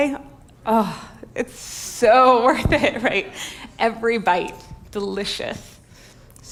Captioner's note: sighs